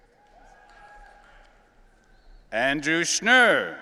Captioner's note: audience cheering